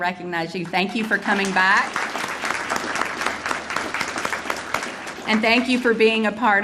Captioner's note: audience applauding